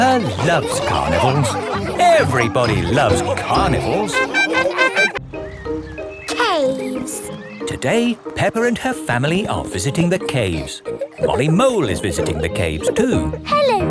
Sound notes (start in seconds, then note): 0.0 both giggling; 4.5 laughing